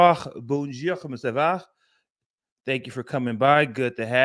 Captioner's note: speaking french